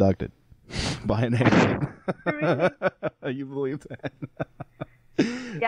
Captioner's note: all laughing